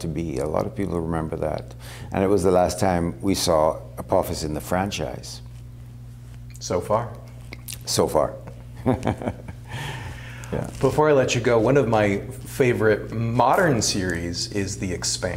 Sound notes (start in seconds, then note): 8.7 laughter